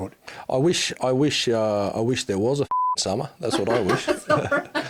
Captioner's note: beep